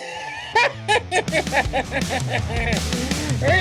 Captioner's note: chuckles